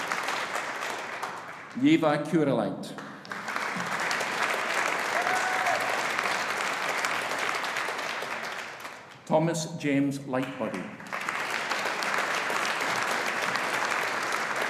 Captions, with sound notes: Ieva Kurilaite. (AUDIENCE APPLAUDING) Thomas James Lightbody. (AUDIENCE APPLAUDING)